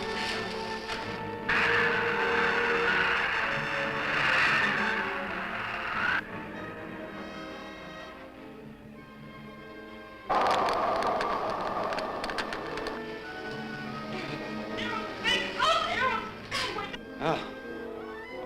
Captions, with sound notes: (fire crackling) Eros wake up, Eros! God wake up! - I wonder if that's the last we'll see of them? - Perhaps, but sooner or later there'll be others. - Look!